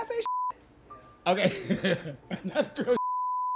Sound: laughs

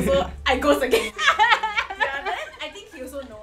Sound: laughs

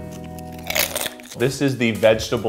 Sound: rangoon crunches

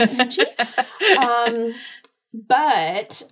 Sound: laughing

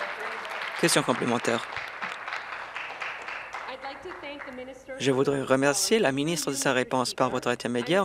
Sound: applause

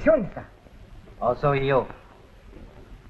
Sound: speaking japanese

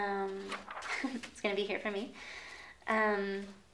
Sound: paper rustling; chuckles

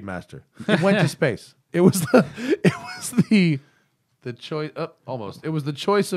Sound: laughter

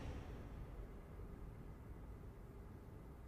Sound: door banging continues

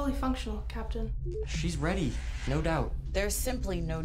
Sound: door beeps and whooshes

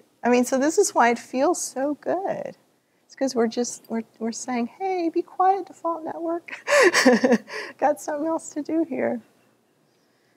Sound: laughter

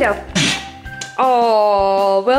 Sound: blowing through tube

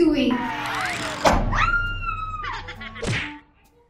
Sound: scream

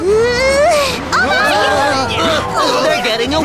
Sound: gasps

